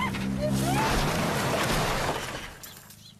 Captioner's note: car clanking and crunching; birds chirping